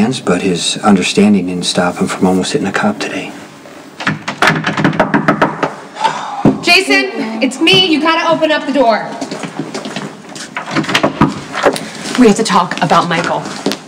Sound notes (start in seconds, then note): 5.8 knock on door